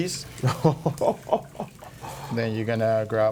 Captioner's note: chuckling